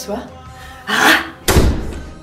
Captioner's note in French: porte qui claque